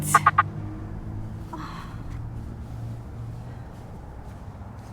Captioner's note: Lyla sighing